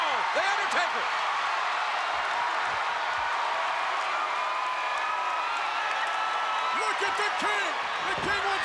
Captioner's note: applause